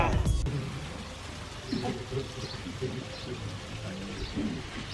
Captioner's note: birds chirping